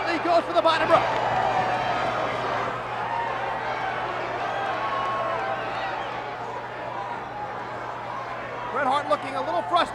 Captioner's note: applause